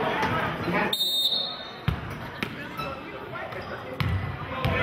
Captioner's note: whistling